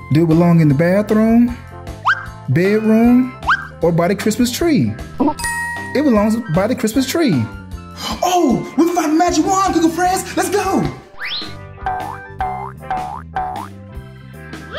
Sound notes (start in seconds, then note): 5.3 bell dings; 11.8 cartoon boing sound effect